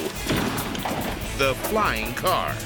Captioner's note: car whips